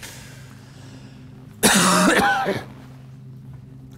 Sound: coughs

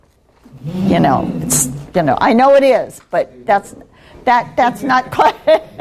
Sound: laughing

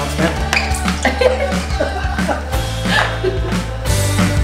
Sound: laughing; upbeat music

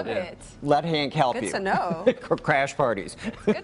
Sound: laughter

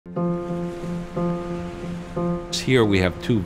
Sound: gentle music; waves lapping

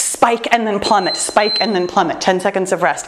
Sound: timer beeps

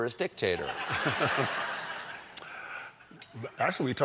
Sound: crowd; laughs

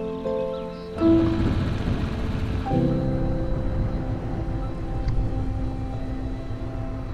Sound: upbeat music; motor whirring

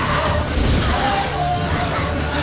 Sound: flames whoosh

